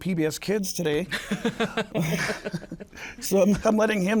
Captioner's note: laughs